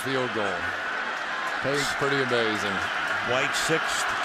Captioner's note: cheering